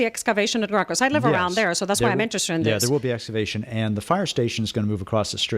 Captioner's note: Hablando ingl\s